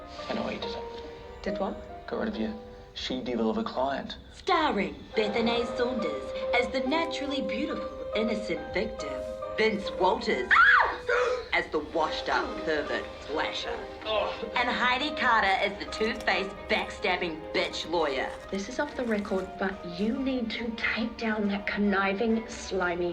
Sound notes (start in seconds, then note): 10.4 screams